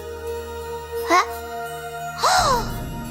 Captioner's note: sigh